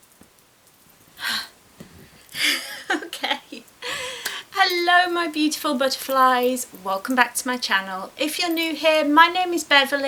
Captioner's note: laughs